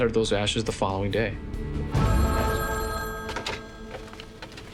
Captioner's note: phone ringing